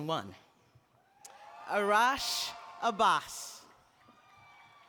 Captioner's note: applause